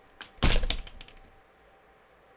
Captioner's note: the sound of a door closing